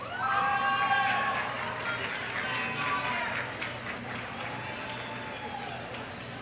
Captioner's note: audience cheering; audience applauding